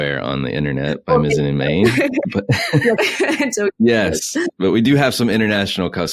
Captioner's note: laughs